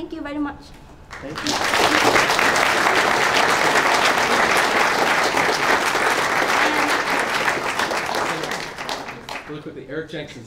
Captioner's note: applause